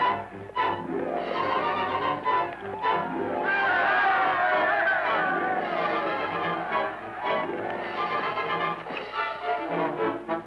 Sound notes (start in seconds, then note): 3.6 crowd cheering; 5.8 suspenseful music